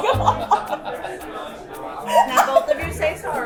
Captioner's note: laughter